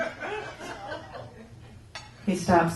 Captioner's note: laughter